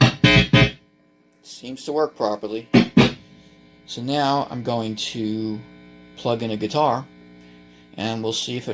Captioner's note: input Cable Buzz